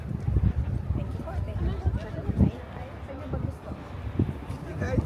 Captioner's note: crowd talking